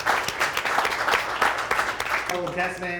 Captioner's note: applause